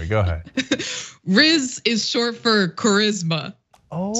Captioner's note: laugh